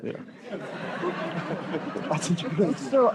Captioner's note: laughter